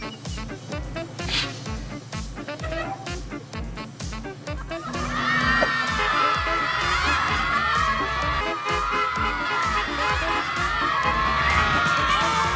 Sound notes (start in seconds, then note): 0.0 doors squeak and hiss; 4.5 students laughing; 4.7 horn honking